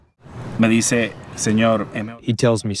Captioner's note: through translator